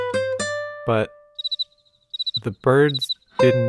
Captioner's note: cricket sound